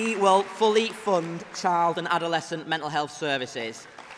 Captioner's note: applause